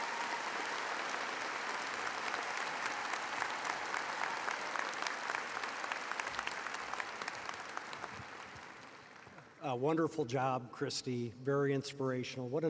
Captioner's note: applause